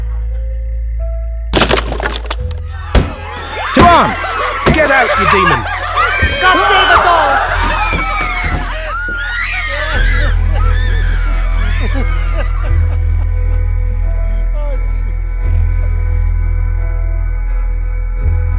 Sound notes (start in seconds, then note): 10.2 screams and an old man crying